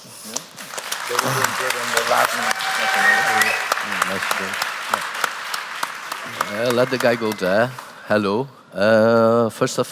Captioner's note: applause